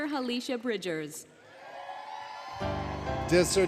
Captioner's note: applause, Cheering, Music